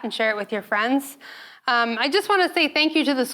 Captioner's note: none